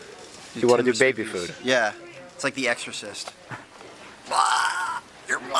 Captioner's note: makes vomiting sound